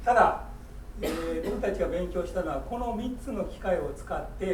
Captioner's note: speaking in foreign language; coughing